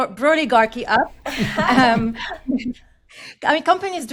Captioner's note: all laugh